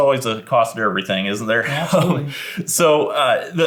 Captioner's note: laughs